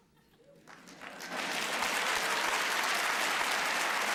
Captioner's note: applause